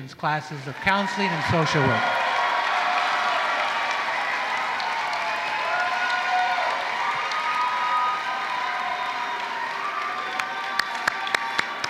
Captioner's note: applause